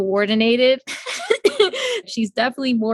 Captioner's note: both laugh